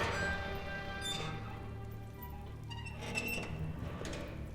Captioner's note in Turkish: Kapı gıcırtı sesi